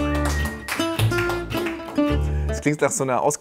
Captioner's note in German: Klatschen, entspannte Klänge